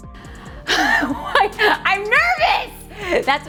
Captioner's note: laughing